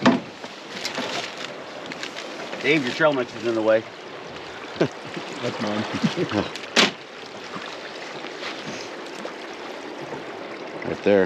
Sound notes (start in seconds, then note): 4.6 chuckling